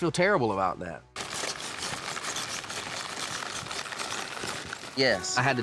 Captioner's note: footsteps